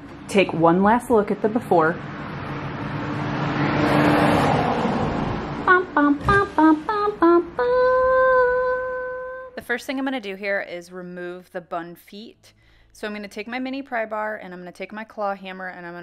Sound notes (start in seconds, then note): 1.6 car engine roaring; 6.0 singing